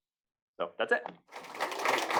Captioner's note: applause